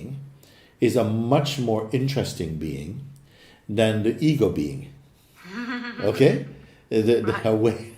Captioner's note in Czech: smích